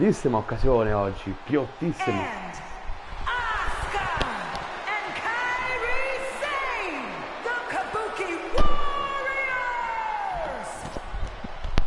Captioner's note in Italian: Applauso